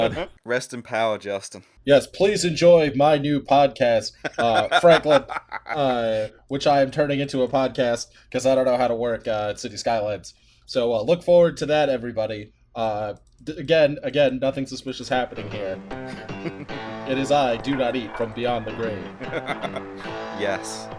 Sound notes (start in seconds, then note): 5.3 cackling